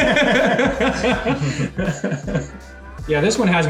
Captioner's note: laughing